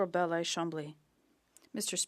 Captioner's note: speaking French